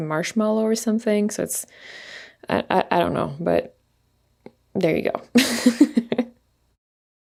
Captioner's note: laughs